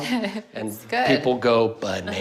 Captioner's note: laughs